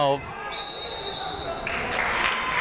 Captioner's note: whistle tweeting; crowd clapping